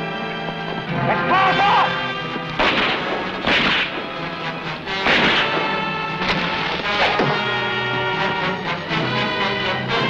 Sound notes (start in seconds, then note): 2.5 gunshots blasting; 6.2 arrow whooshing